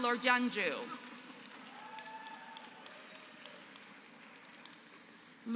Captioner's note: applause